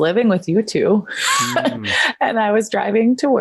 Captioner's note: laughs